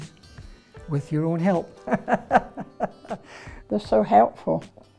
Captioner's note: laughing